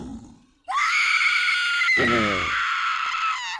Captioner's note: screams